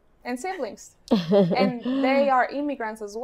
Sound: laughs

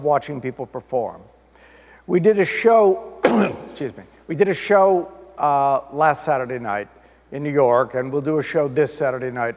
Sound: clears throat

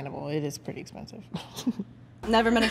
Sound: chuckles

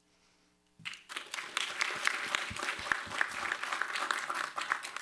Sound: applause

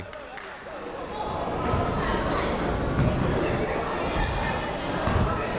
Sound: people talking in the crowd

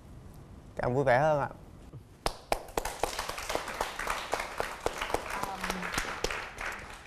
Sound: applause

